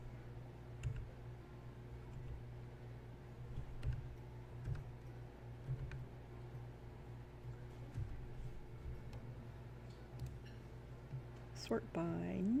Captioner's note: types & clicks, clicks & types